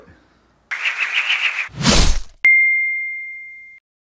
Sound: air whooshing

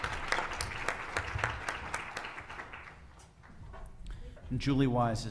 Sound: applause

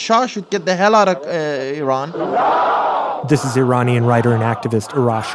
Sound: crowd yelling

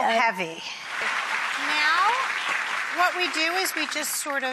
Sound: audience claps

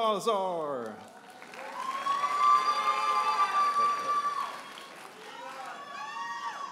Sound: audience applauding and cheering

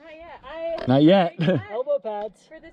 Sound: laughs

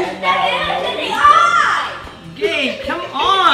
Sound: screaming

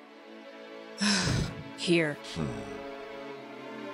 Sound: sigh

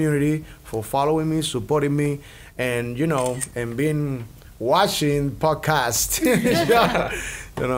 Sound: laughs

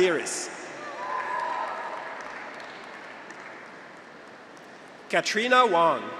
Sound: graduates cheer; audience applauds

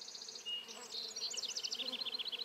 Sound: humming, birds chirping

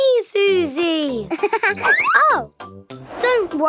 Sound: giggling

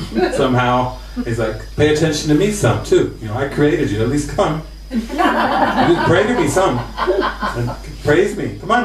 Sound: laughter

